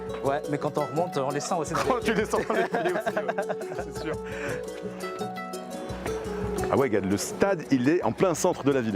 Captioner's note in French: rires